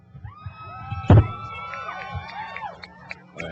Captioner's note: cheering